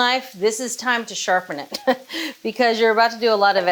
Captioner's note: laughs